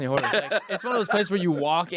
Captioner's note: laughing